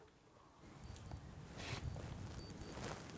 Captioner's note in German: Hochfrequentes Piepsen